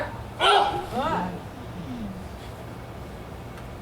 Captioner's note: Helena grunts